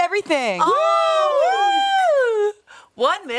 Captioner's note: everyone cheers